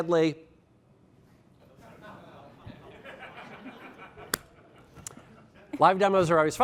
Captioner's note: laughter